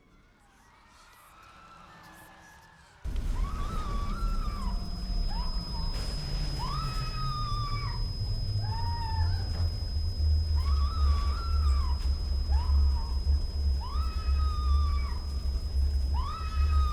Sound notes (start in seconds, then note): 0.2 eerie music; 3.4 woman screaming